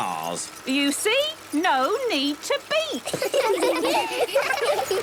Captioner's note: laughter